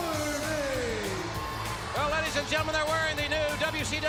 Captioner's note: crowd cheering